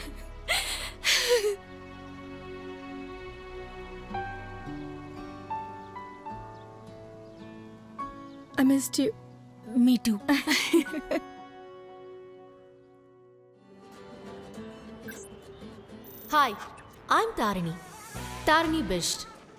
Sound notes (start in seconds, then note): 10.3 Amy chuckles; 14.9 machine sound